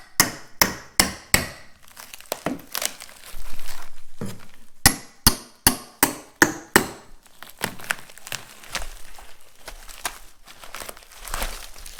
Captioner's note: hammering and pry bar sounds